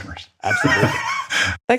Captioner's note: laugh